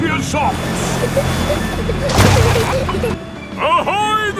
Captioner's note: peppa and george giggling